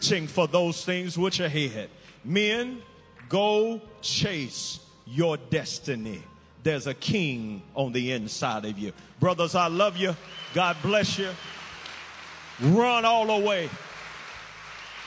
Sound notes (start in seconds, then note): 9.8 inmates applaud